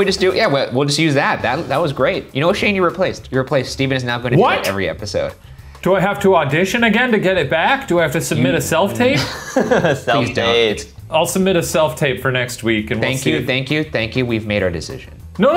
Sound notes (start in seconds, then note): 8.9 laughs